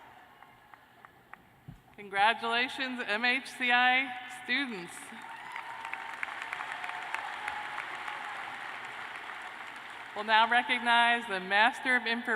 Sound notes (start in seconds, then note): 5.1 cheers and applause